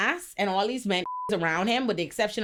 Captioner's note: beep